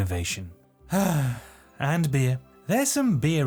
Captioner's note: sigh